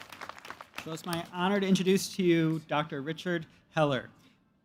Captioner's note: cheers